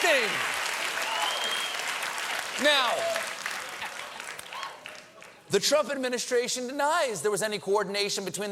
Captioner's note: cheers and applause